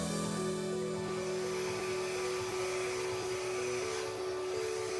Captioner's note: machine whirring